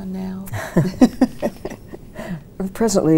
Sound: both chuckling

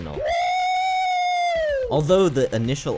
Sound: woooooo!!!

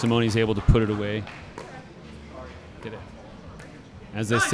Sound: chattering

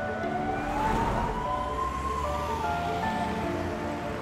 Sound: siren wails

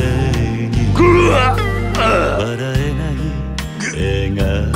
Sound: big gurgle groan cough

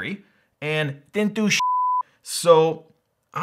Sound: beep

